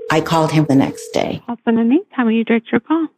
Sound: phone rings

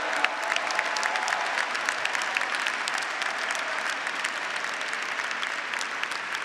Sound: audience and graduates applauding

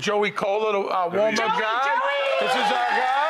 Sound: audience cheering

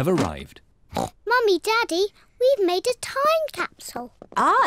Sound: oinks

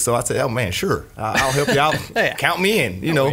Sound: laughs

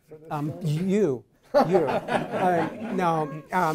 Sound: all chuckles

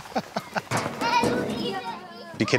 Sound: laughter; children's voices

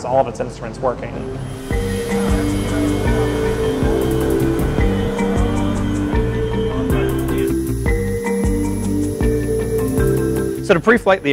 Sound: music, low talking, and aircraft engine sounds

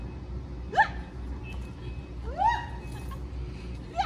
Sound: excited screams

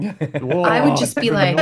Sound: laughs

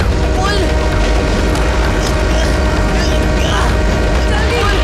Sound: train horn blares

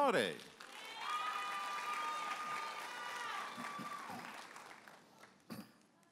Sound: audience applauding and cheering

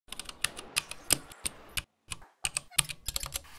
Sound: keys typing

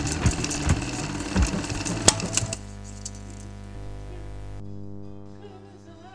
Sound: film reel breaking; electronic static

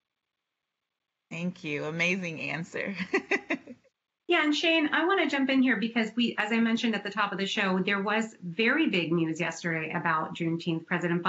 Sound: laughter

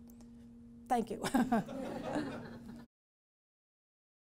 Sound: laughs

